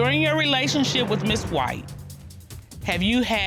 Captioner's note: judge dana reading